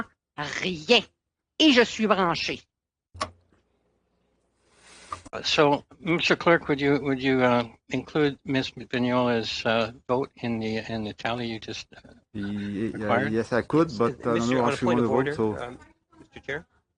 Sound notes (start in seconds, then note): 4.7 speaking French